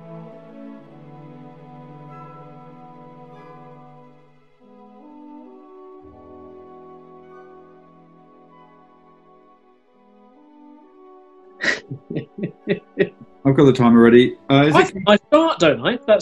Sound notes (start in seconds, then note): 11.6 chuckling